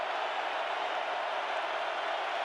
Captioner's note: crowd cheering